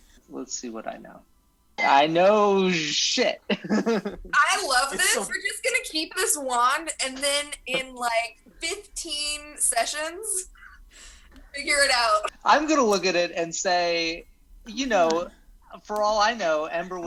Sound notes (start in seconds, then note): 3.5 giggles